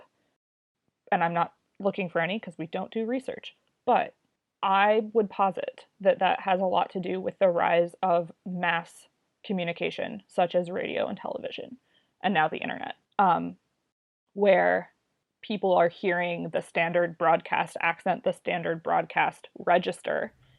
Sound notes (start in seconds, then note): none